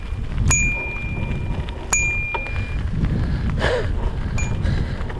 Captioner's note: rings bike bell